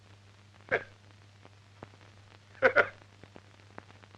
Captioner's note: laughing